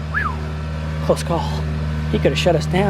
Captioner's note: whistles